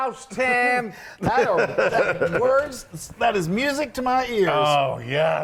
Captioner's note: laugh